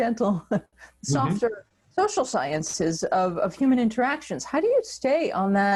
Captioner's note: laughs